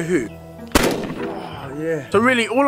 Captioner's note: gun fires